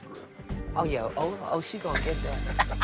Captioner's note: laughs